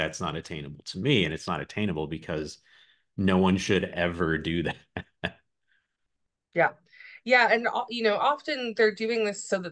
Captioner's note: polite laughs